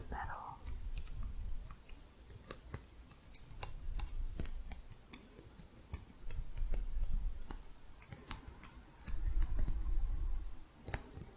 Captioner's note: jingly tapping on hooks